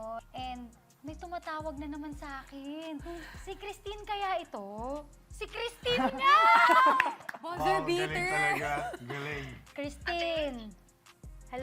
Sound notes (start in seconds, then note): 6.6 claps